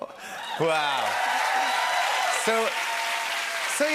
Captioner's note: cheers and applause